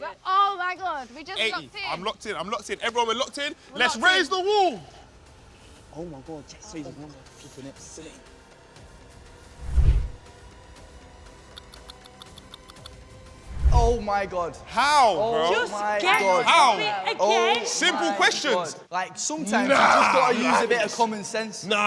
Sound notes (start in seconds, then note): 9.2 anticipatory music; 9.2 clock ticks